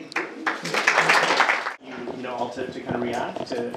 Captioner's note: group clapping